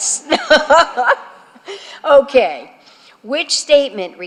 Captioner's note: laughter